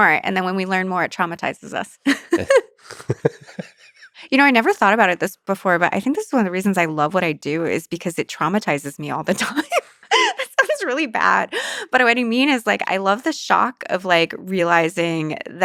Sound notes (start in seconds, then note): 2.8 Lex laughs; 2.8 laughs; 9.3 laughs